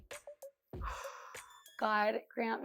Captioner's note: exhales